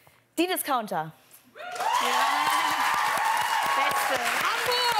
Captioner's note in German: Jubel